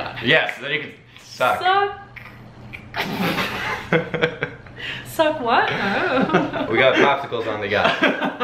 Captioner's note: laughter